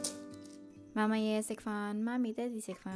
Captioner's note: Cantonese